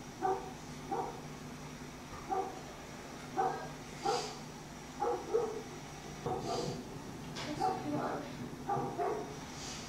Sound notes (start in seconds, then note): 7.1 dog barking